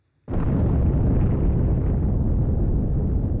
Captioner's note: explosion roaring